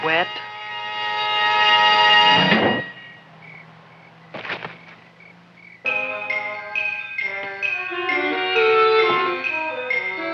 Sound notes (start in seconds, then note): 0.2 dramatic music; 4.3 Leonora thuds; 4.3 crickets chirping; 5.8 anticipatory music